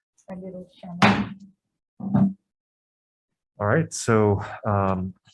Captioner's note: gavel bangs